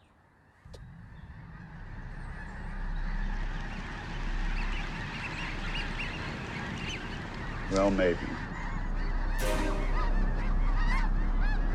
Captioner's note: birds squawking